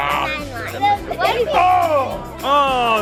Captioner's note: groaning